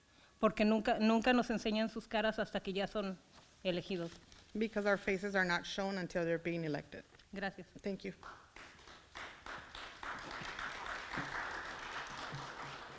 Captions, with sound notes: (foreign language) because our faces are not shown until they're being elected. (foreign language) Thank you. (audience clapping)